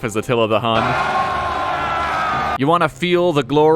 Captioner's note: wild screaming